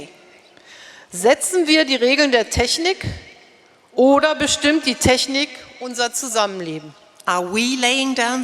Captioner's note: speaking in German